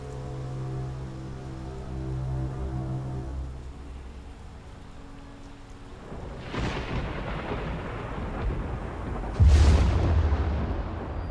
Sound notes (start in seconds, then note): 0.1 rain pattering; 0.1 soft tense music; 6.0 thunder rumbling